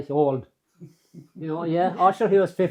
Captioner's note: laughter